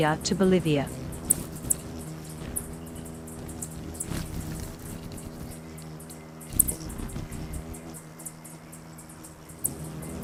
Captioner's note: birds chirping; bird's wing flapping; birds chirping